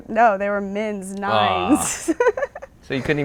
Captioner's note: laughs